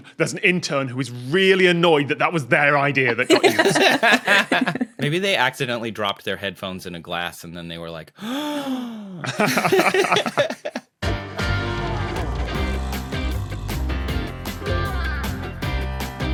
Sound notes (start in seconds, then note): 3.1 guests laughing; 8.2 gasp; 9.2 group laughing